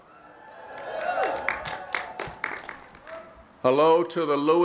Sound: cheering

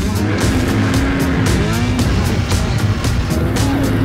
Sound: upbeat music; engine revs

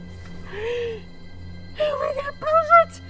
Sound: Reese gasps

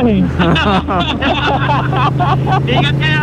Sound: group laughing

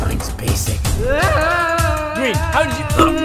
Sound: Green screams; bonk

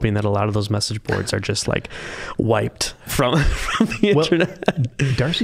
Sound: laughing

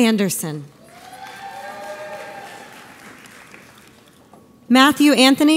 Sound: audience applauds

